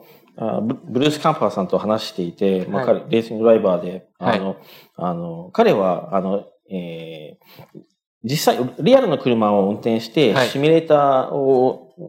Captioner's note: speaking japanese